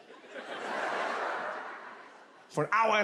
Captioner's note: audience laughs